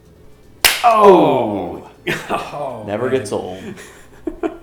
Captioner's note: laughs